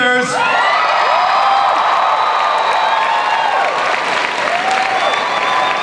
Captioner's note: audience cheers and applauds